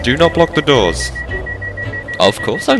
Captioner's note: door chimes